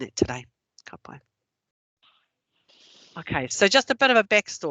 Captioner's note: non-english